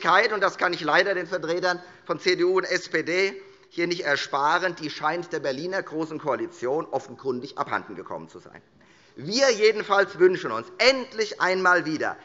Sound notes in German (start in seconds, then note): none